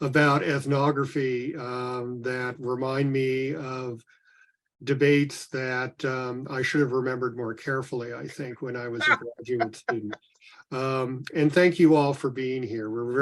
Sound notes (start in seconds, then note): 10.7 laughs